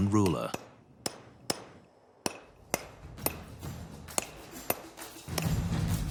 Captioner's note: chisel noise